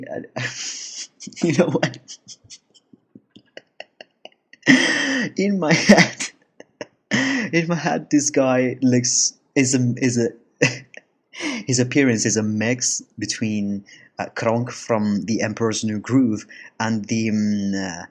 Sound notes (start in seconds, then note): 3.4 laughs uncontrollably